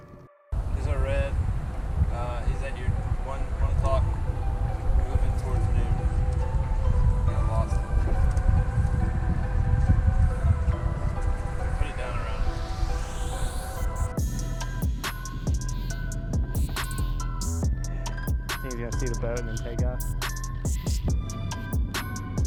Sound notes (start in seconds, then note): 0.1 intense music; 7.5 intense music; 10.2 wind blowing; 14.3 intense music; 17.0 reel spinning